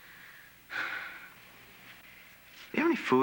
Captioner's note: sighs